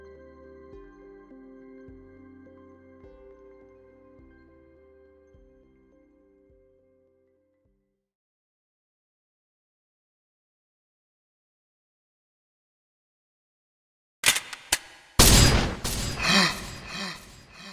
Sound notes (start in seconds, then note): 14.2 gun cocks; 14.2 gun shoots and misses